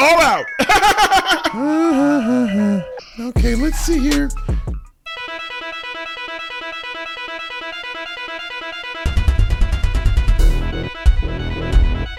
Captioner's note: laughing uncomfortably